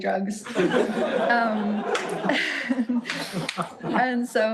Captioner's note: audience laughing